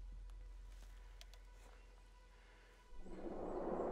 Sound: dinosaur growls

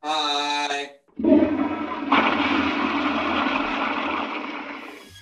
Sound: toilet flushes

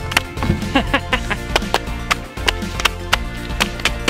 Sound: laughing

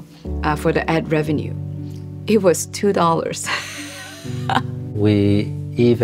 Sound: laughs

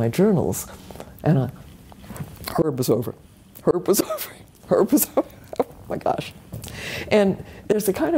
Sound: laugh

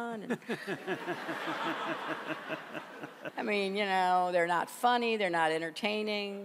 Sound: laughter

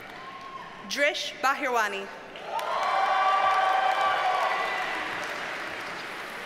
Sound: audience cheers and applauds

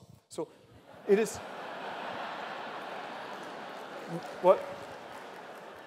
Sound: laughter

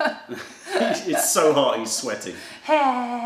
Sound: laughter

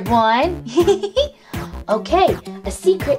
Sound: Owlette giggling

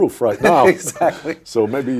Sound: laughing

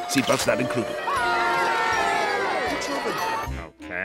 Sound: cheering

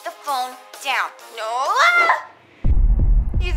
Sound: screaming

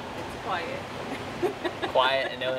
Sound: laughs

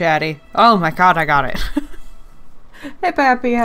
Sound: laughs

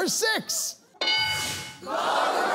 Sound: bell dings

